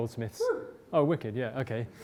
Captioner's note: voiceover